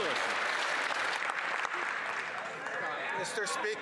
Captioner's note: some Applause